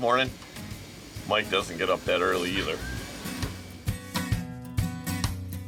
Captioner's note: laughing